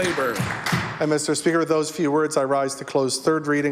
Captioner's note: applause